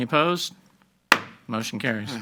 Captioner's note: gavel banging